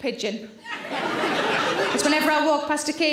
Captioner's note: audience laughter